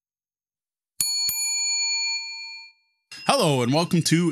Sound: bell ringing

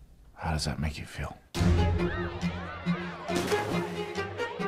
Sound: people laughing, chattering

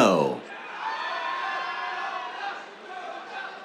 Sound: cheers

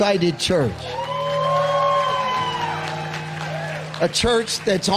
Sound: audience applauding

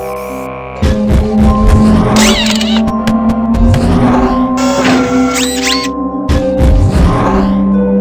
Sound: machine Humming; stomping, Whirring, Zipping

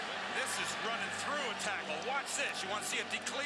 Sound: voiceover

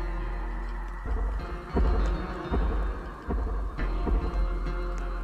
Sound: creature stomping loudly

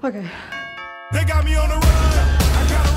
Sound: the bell rings

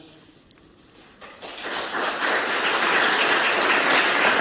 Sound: applause

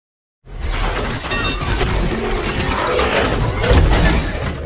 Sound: metallic clanks

